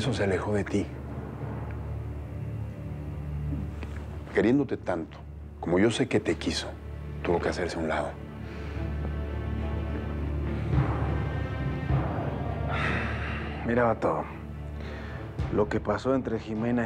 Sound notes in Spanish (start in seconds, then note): 12.3 exhala